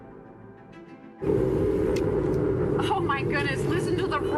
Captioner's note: distant engine roars